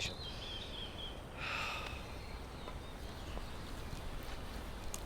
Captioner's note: Chris sighs